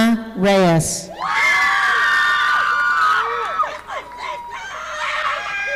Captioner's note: audience applauding